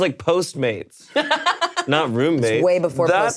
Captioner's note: laughing